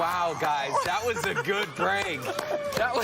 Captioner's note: laughter